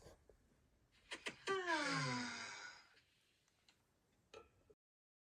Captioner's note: turtles sigh